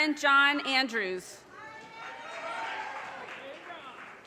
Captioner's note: audience cheers and applause